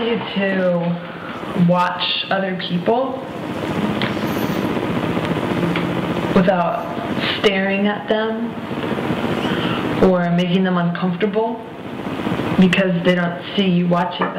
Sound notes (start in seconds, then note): none